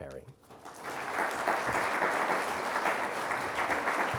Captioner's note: everyone claps